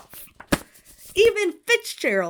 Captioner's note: Hana slams book shut